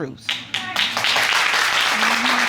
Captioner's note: audience clapping